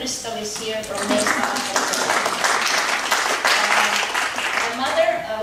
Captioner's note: audience applauding